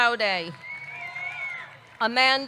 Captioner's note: audience cheering; man whistles